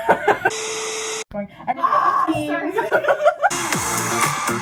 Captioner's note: screeching